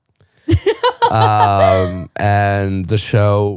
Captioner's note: laughing